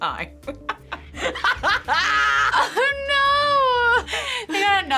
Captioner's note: laughs